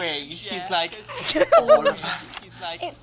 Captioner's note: chuckles